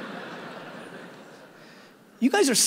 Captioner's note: audience laughing